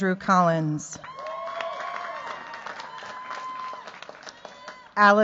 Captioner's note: cheers, applause